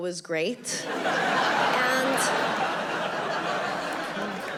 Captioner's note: audience laughing